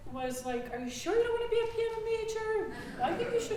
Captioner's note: audience chuckling